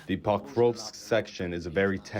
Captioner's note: through translator